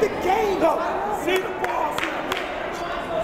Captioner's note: yelling